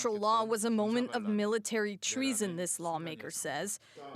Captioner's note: speaking alternate language